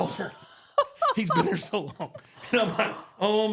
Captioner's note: Michelle laughs